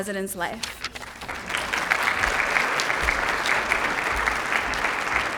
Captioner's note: applause